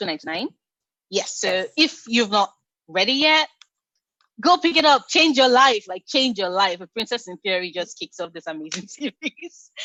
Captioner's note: laughs